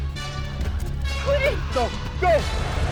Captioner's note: dramatic music; Guine screams